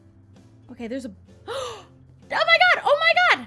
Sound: gasp

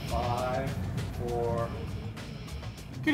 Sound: voiceover

